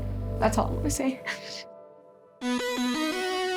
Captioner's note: sniffling